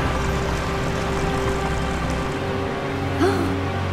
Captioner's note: waterfall sloshing; Princess Oren gasps